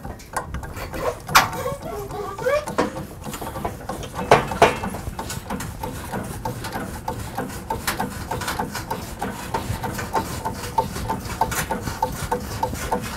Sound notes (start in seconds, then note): 1.6 metal creaking